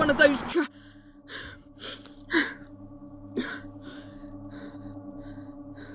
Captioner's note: Ace takes a deep, shivering breath